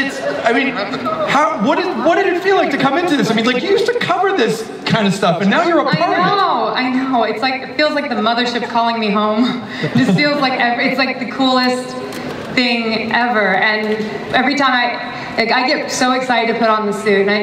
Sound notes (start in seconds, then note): 9.7 laughs; 9.8 Chris laughs